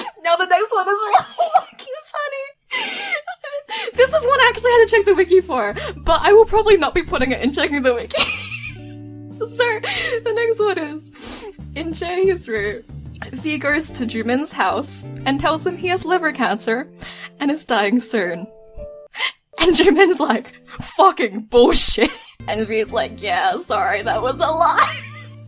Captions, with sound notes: Now the next one is really fucking funny. This is one I actually had to check the wiki for, but I will probably not be putting it in checking the wiki. So (inhale) the next one is (sniffs) In Jaehee’s route, V goes to Jumin’s house and tells him he has liver cancer, and is dying soon. And Jumin’s like, “Fucking bullshit.” And V’s like, “Yeah, sorry, that was a lie.”